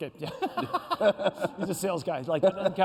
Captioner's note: laughter